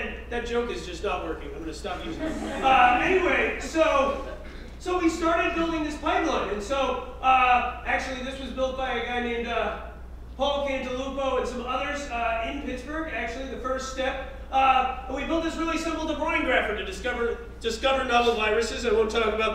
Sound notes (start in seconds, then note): 2.0 laugh